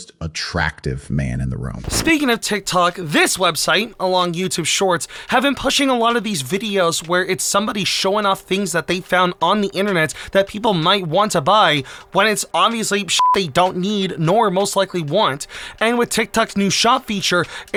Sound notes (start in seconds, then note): 13.1 beep